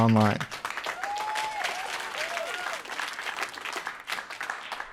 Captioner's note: audience claps and cheers